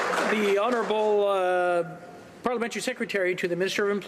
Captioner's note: some Applause